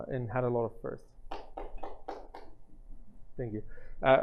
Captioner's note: claps